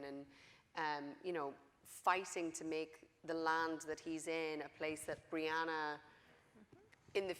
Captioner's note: none